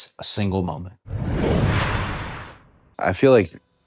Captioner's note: logo whooshing